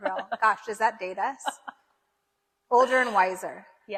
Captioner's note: laughs